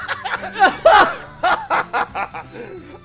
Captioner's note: laughter